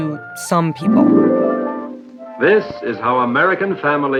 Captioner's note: soundbite of archived recording